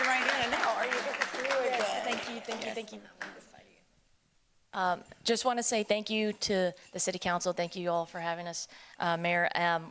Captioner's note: applause